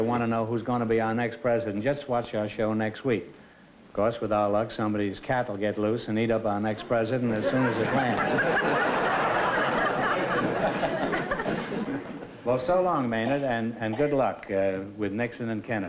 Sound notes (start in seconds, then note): 8.7 laughter